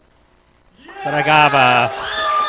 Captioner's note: cheering, applause